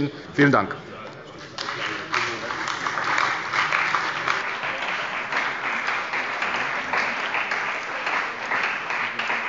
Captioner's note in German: Beifall bei der CDU und dem BÜNDNIS 90/DIE GRÜNEN